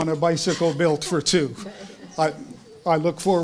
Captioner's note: laugh